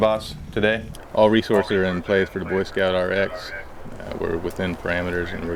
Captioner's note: radio traffic